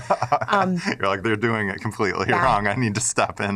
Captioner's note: laughs